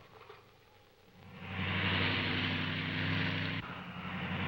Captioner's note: cars passing